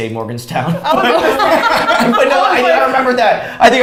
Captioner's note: all laughs